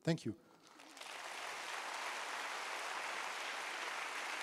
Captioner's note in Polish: oklaski